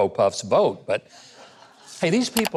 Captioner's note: audience laughs lightly